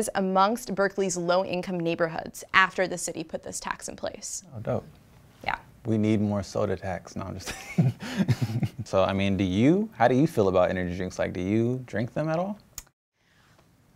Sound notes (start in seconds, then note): 7.4 laughs